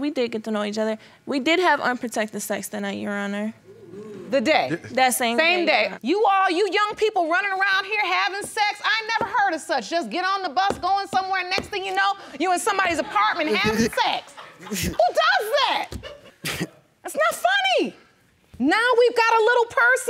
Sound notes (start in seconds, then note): 12.9 audience laughing; 14.2 snickers